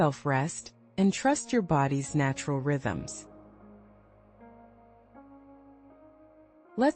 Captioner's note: pause